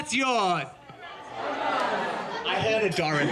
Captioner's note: crowd answers